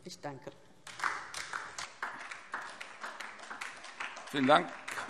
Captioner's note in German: Beifall